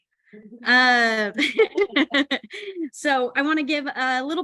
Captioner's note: laughing